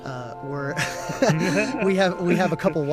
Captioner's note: chuckling